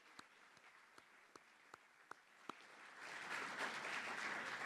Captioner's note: applause